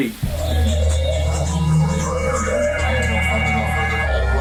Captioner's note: distorted vocalizations and radio feedback